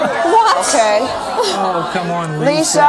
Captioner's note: audience expressing disbelief